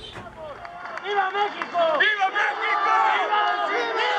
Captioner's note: crowd